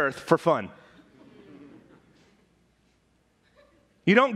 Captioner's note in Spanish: murmullos de congregación